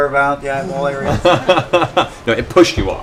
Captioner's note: laughter